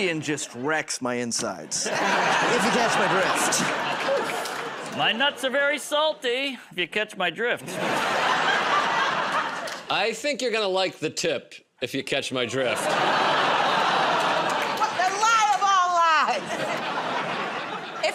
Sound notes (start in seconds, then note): 3.5 laughter; 7.6 laughter; 13.1 laughter, groaning; 16.3 laughter